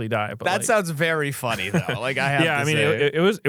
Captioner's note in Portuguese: risos